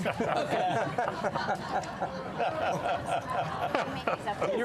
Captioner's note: laughter